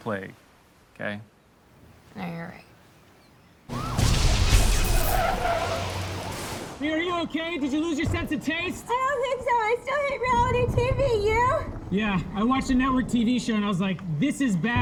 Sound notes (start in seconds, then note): 3.7 siren wailing; 3.8 explosions